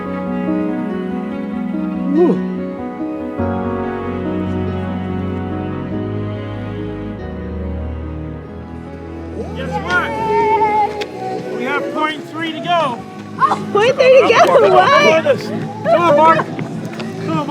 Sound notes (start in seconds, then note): 2.0 yawns; 10.0 group cheers